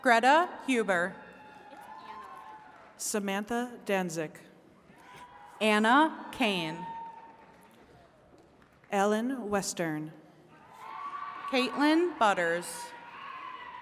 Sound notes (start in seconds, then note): 0.0 attendees cheering; 10.6 attendees cheering